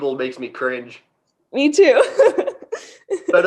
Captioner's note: laughs